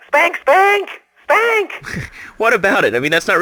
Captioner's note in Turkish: gülüyor